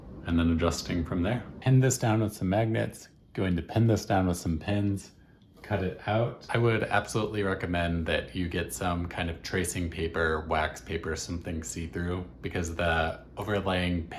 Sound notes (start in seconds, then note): 6.1 voiceover